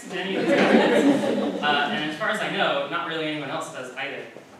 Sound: laughter

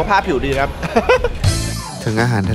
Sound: chuckles

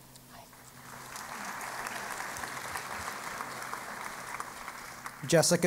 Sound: applause

